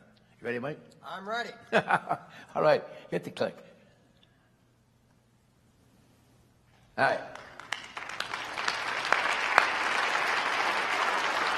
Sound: applause

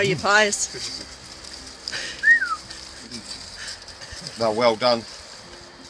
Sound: whistle

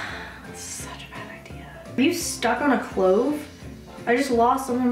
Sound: sighs

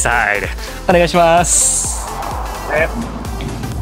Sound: greeting host in japanese

